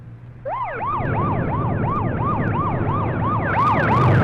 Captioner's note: siren wailing